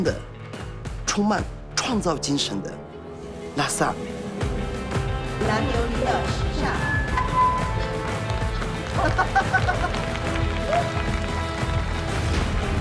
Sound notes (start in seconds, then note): 6.0 speaking Tibetan; 7.3 microphone feedback; 8.6 laughing; 10.5 applause